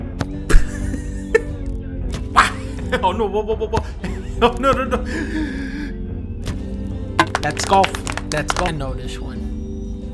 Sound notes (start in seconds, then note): 0.2 laughs; 4.0 laughs; 5.3 gasps